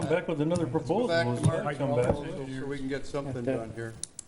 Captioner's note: murmurs